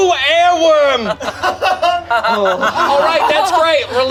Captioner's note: group laughs